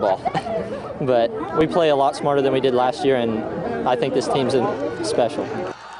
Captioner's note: laughs